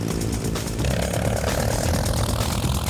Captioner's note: laughs